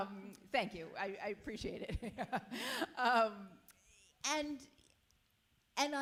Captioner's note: chuckles